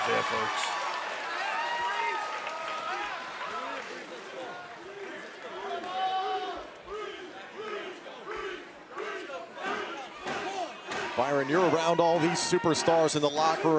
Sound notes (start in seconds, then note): 1.9 crowd cheering